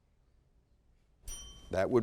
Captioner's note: bell dings